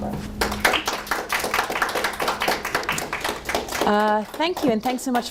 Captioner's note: audience applauding